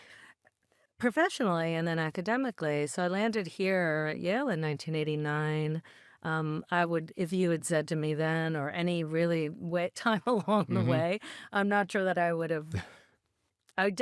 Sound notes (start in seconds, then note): 10.4 chuckles